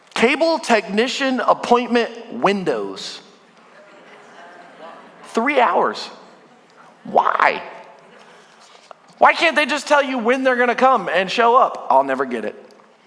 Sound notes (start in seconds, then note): 3.6 congregation groaning